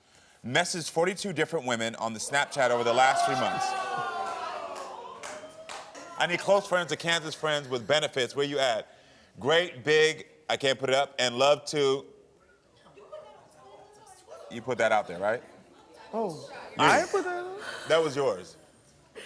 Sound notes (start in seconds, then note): 2.4 audience groans; 12.3 audience chatters